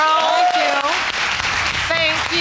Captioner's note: audience applauding